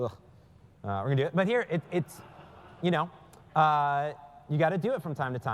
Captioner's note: laugh